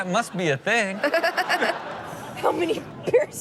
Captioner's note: Chanel laughs